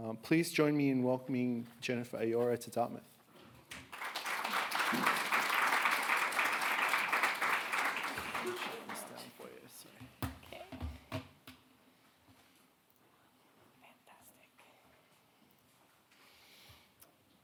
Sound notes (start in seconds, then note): 3.8 audience applauding